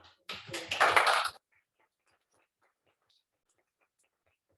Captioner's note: applause